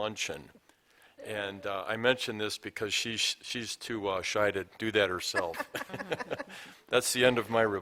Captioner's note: laughter